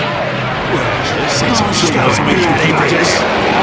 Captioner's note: varying negative and jeers sound clips from onlooking snipers